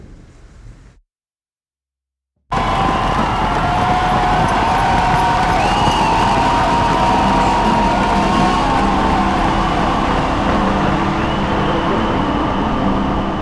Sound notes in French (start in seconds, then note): 6.0 cri